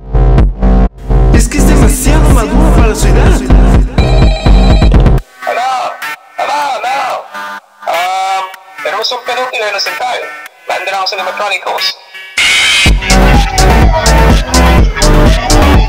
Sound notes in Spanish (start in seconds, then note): 4.0 llamada entrante; 11.9 Música y sirenas de Patrullas